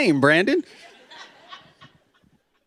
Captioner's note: laughter